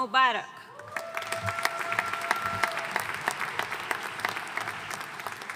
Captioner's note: audience cheering and applauding